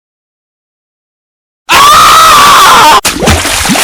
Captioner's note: Lincoln screaming